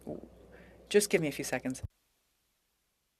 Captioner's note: speaking French